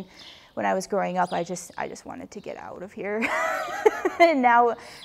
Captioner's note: laughs